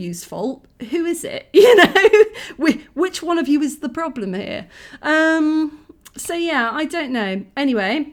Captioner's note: laughing